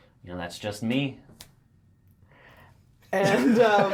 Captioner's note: all laugh